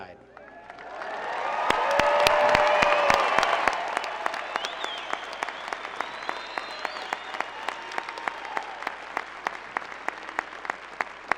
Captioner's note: cheers, applause